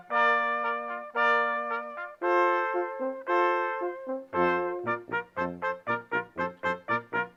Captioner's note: none